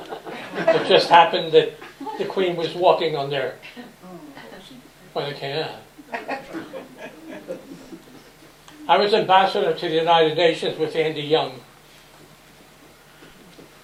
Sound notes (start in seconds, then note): 6.0 laughter